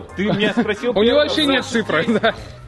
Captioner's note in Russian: смеется